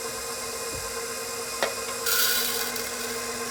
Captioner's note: grinder whirring